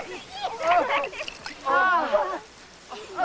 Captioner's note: sighs of relief